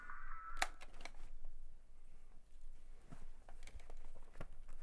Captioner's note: tape recorder clicks